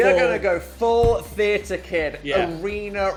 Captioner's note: fist thumping